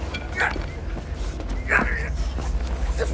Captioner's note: bat clattering; man grunting